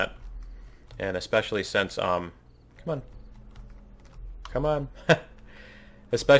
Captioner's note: laughs